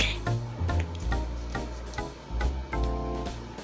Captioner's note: silent Card Placing Sounds